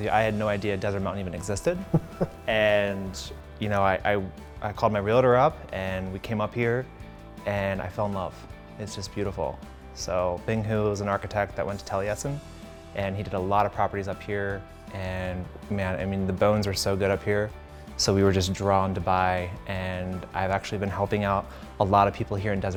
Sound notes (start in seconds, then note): 1.8 chuckles